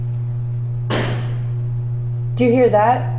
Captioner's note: something bangs loudly